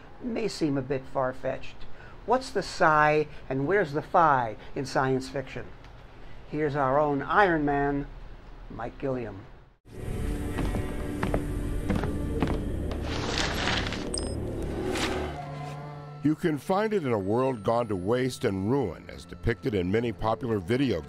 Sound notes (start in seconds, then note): 10.2 foot Steps; 11.3 eerie Music; 14.4 paper rustling